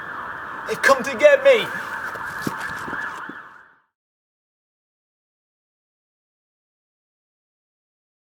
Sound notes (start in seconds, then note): 0.6 footsteps running away